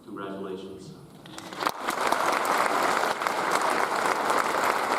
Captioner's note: audience applauds